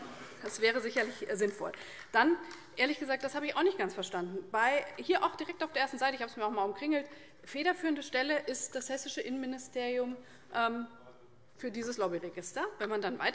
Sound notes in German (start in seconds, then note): 0.4 Beifall